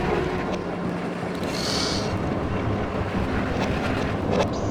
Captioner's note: Devils Snare whooshing about